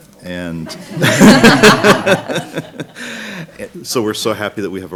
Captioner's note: laughing